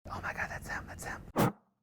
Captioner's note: whispering